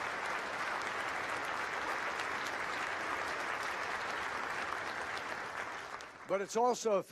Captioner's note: applause